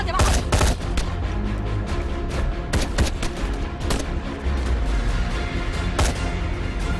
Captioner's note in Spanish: Disparos